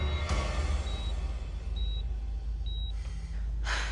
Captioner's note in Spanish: Sonido de telemetría